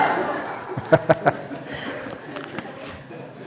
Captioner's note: laughter